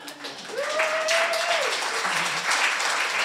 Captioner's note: applause